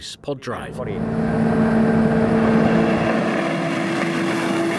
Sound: engine roars

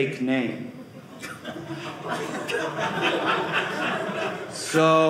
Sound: audience laughing

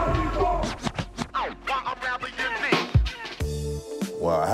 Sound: record scratch

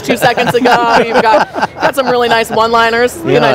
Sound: all laughing

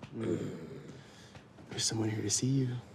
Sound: groaning

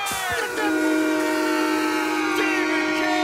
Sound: horn honking

